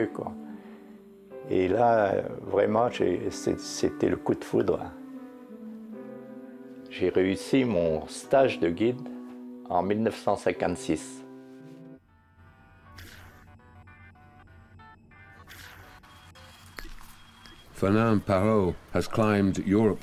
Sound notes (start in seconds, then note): 12.8 soft upbeat music; 16.4 electronic beeping